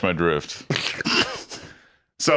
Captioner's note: snicker